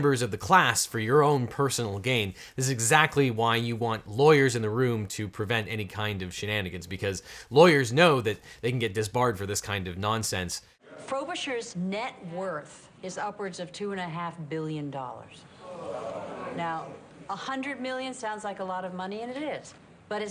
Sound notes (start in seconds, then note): 15.6 crowd groans